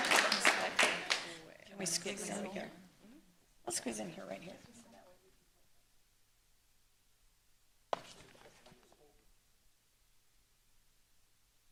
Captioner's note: applause